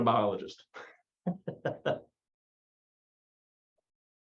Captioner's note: laughs